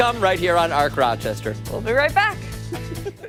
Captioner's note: laughter